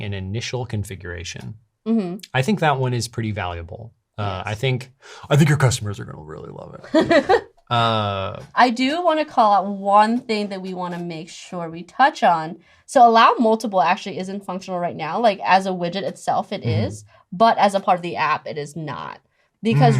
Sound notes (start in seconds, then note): 6.9 laughs